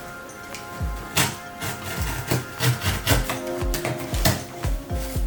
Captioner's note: sound of cutting tape; upbeat music